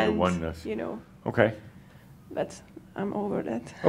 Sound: she chuckles

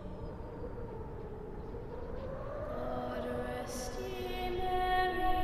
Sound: wind blowing

